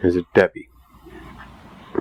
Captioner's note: eerie voice